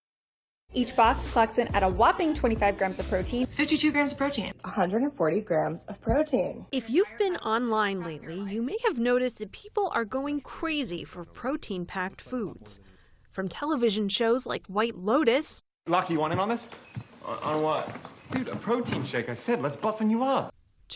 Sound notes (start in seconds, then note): 4.4 voice-over